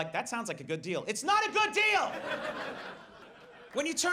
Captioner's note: audience laughs